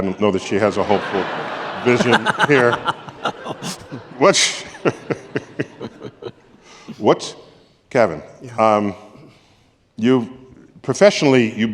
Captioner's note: laughter